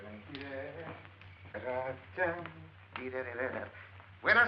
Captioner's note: humming